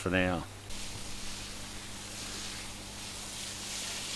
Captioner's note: water sprays